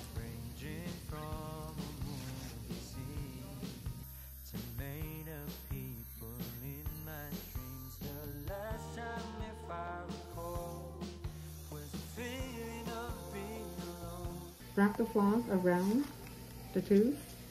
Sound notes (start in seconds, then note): 11.5 polishing